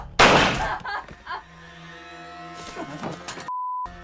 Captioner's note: crying